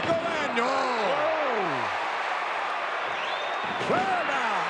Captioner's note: audience cheering